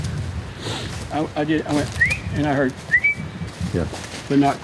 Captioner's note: whistles